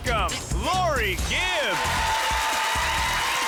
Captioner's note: crowd cheering